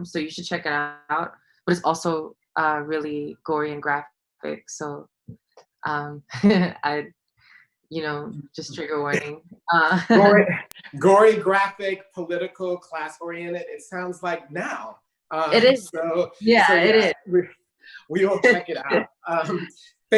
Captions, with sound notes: So you should check it out. But it's also really gory and graphic, so. (laughs) I would just trigger warning (laughs). - Gory, graphic, political, class oriented. It sounds like now. - It is. - So. - Yeah, it is. - We'll check it out. (laughing)